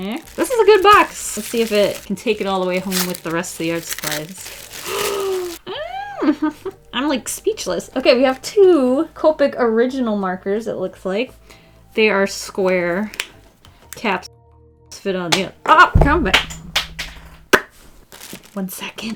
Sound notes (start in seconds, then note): 4.8 gasps; 15.9 mouth pop